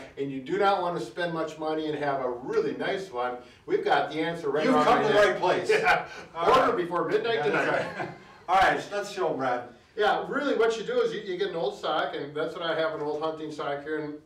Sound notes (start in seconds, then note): 7.3 chuckling